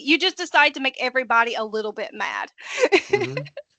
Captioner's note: laughing